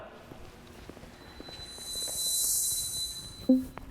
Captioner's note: feet shuffling